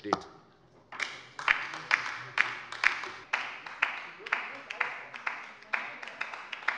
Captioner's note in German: Beifall bei der LINKEN